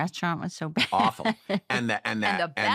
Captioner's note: laughs